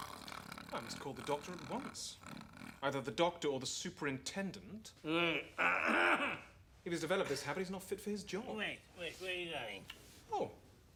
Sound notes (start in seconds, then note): 5.1 grumbling, clearing throat